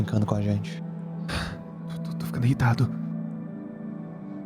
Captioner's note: sighs